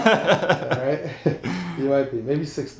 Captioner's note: man laughs